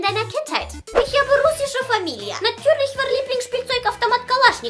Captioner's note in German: Russischer Akzent